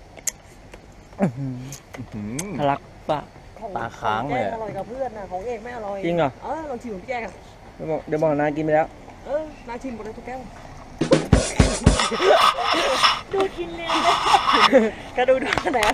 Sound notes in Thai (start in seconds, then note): 11.7 เสียงหัวเราะ